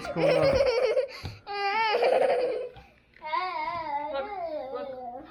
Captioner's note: whimpering; whimpering